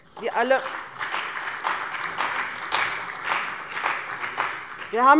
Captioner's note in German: Beifall bei dem BÜNDNIS 90/DIE GRÜNEN und der CDU